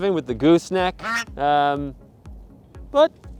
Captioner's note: goose honk!